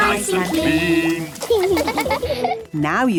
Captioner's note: laughing